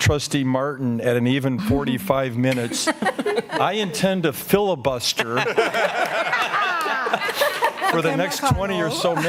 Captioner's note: laughter